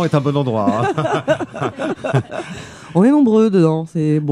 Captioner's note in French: rires